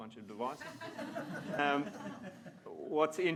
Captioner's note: audience laughs